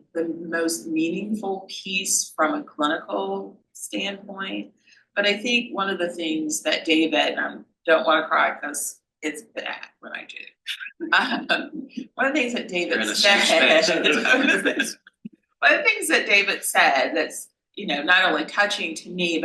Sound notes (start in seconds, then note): 10.9 laughs